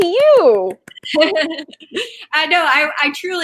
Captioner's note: laughing